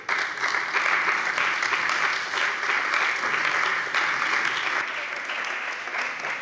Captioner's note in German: Beifall bei der CDU und der FDP